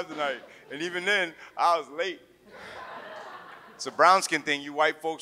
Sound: audience laughs

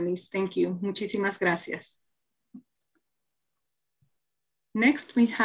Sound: speaking in foreign language

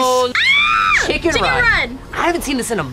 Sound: screams

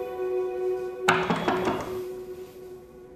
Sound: door knocking

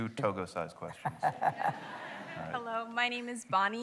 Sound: laughter

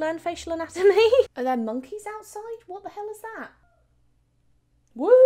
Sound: laughs

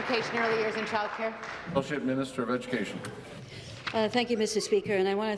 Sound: applause

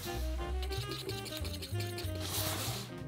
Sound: whisking

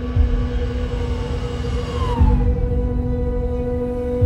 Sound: siren wailing

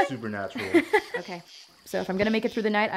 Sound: giggles

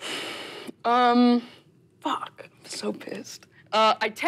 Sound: none

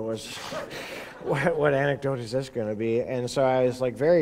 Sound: laughter

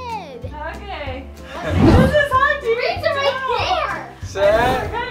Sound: family talking excitedly

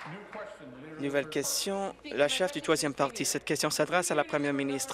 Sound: applause

